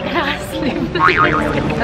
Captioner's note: laughs